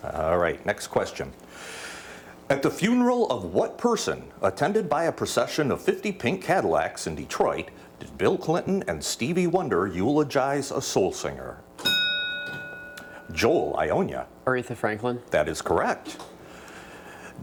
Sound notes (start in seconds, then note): 11.8 bell dings